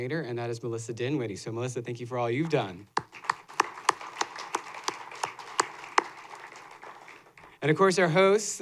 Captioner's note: applause